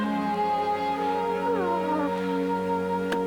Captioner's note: whimpering